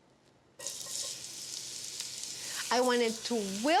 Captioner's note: onion sizzles